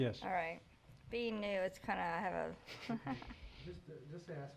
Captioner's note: laughs